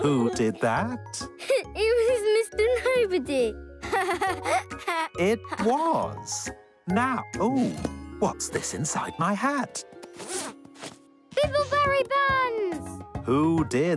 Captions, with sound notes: Who did that? - (laughs) It was Mister Nobody (laughs) - It was, now, oh, what's this inside my hat? - Bibbleberry buns!